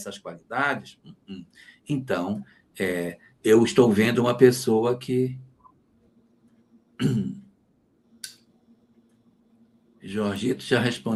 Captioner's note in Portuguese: limpando a garganta